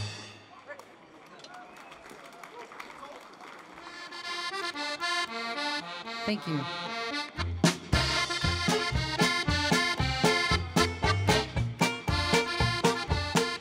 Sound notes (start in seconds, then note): 0.6 crowd applauds; 4.1 lively polka music